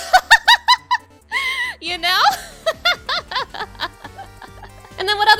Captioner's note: laughing